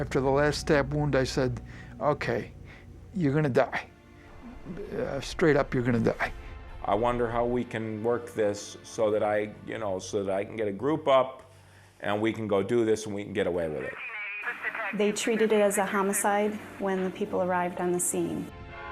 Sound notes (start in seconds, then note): 13.8 police radio chatter